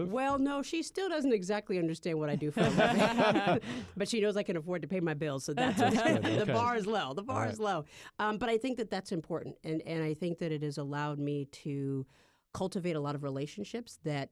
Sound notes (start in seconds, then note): 2.3 laughter; 5.6 laughter